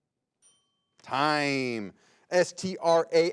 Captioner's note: bell rings